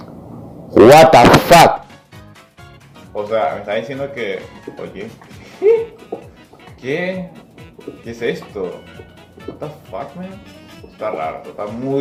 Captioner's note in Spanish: sonidos de sorprendido